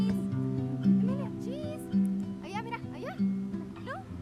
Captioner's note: family members talking